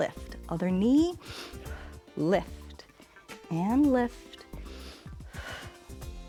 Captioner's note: inhales and exhales